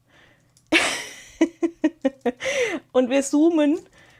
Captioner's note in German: gelächter